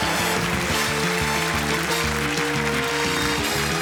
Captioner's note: cheering